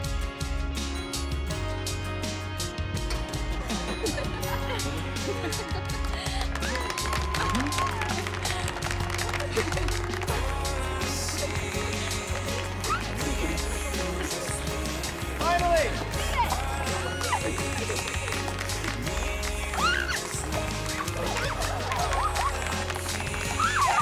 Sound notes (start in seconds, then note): 3.2 all laughing; 6.7 cheers and applause; 17.2 cheering; 20.8 laughter